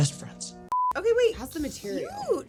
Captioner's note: screen beeps